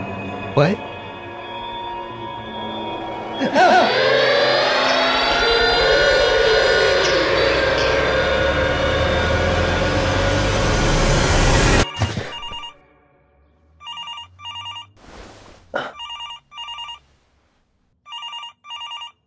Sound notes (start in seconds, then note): 3.3 groans; 4.5 loud siren, eerie music intensifying; 11.9 phone ringing, gasps; 13.7 phone ringing